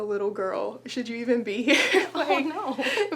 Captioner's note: laughs